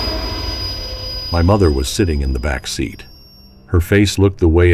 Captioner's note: JUMP SCARE: sudden loud hit